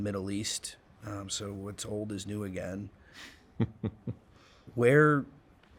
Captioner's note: chuckling